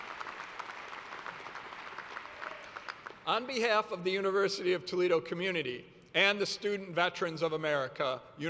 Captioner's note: applause